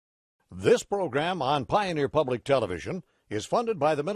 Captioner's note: voiceover